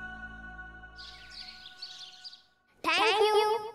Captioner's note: birds chirping